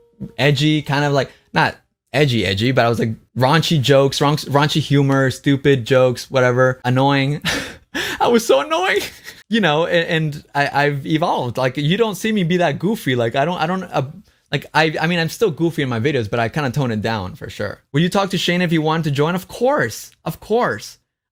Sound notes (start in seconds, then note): 9.0 laughs